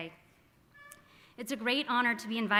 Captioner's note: squeaking